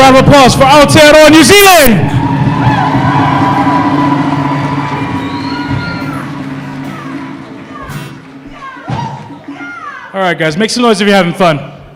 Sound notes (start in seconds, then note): 2.4 applause